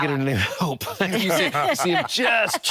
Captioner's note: laughter